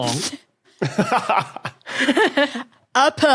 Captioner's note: others laugh in turn